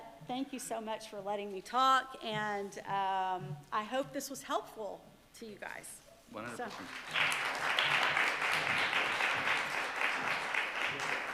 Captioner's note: applause